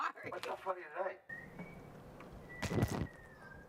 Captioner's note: man 1 whistling in distance